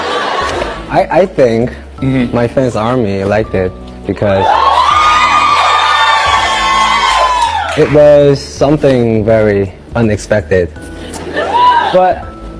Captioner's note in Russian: ликование; ликование